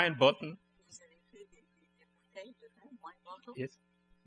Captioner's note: speaking french